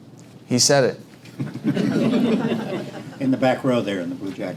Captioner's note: laugh